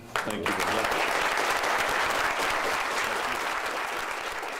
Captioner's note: audience applause